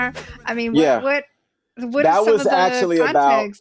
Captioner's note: whooshing sound